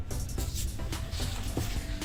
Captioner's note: clothes rustle